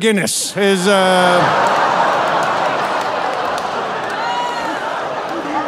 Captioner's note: audience laughing